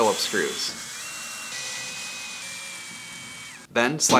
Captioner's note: drill screeching